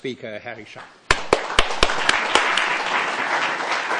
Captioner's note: applause